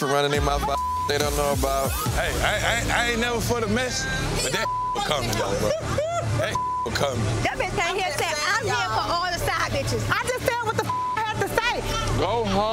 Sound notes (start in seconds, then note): 0.7 beep; 4.6 beep; 5.2 laughing; 6.5 beep; 10.8 beep